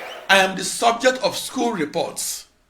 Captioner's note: wild applause and cheering for 22 seconds